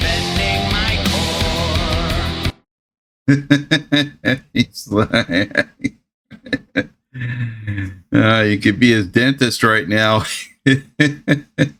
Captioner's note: laughing